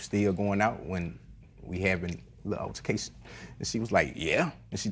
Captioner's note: none